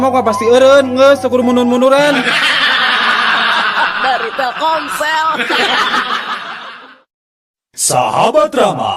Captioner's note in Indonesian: tertawa